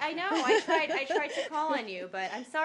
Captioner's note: laughter